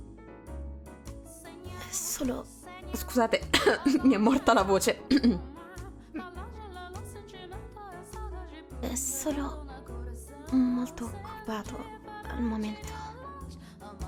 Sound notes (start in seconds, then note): 3.5 clears throat